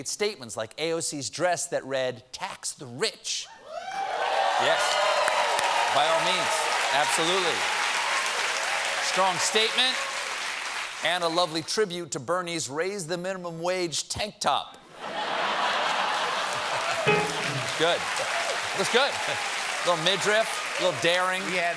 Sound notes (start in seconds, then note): 3.6 cheers and applause; 13.8 applause; 14.9 laughter